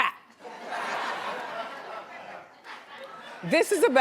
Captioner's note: audience laughs